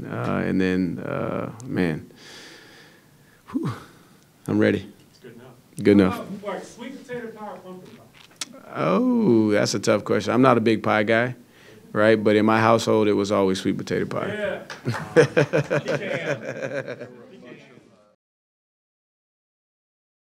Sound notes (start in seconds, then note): 14.8 laughter; 15.3 applause